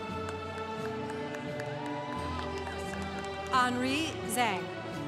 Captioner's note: congregation applauding